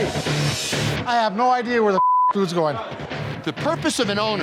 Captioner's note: beep